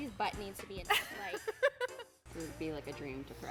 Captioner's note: laughs